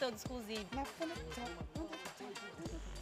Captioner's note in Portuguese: cantarolando